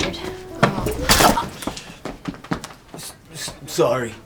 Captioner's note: wine splashing